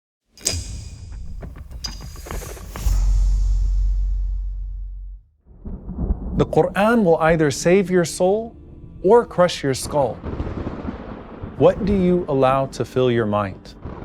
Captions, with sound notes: (logo clinking) (intriguing dramatic music) - The Qur'an will either save your soul or crush your skull. What do you allow to fill your mind?